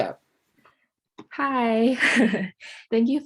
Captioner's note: chuckles